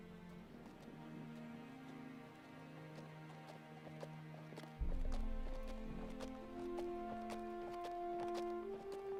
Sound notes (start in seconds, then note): 1.7 horse hooves clomping